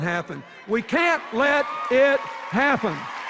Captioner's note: cheers and applause